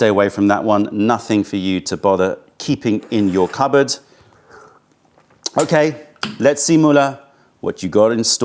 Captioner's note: sips tea